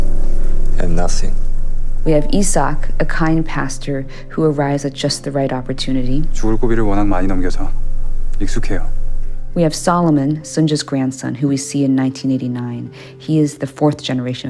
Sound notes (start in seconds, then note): 6.0 soundbite of tv show, "pachinko"